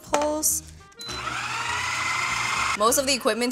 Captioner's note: processor whirs